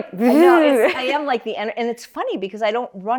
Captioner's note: laughs